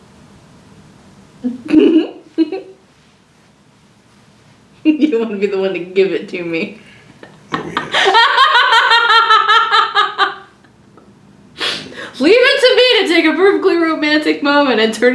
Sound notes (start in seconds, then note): 1.7 laughs; 7.5 laughs